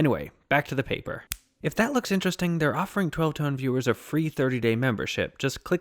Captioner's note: snaps fingers